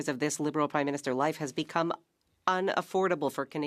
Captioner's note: speaking French